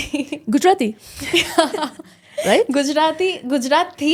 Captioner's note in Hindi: हंसी